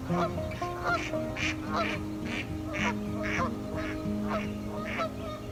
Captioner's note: goose honking and duck quacking